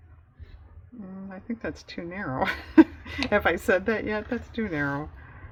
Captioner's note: laughs